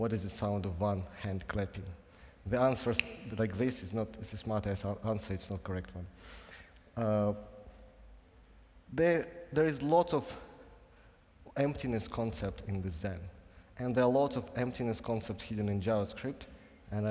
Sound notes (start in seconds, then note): 2.9 snaps fingers